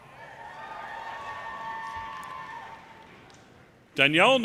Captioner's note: audience cheering